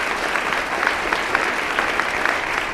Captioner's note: applause